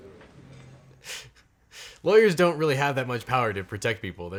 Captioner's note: laughs softly